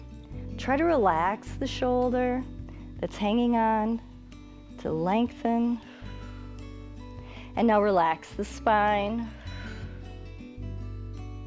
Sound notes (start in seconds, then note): 7.1 exhales